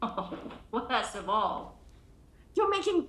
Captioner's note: laughs